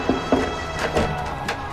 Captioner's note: knocking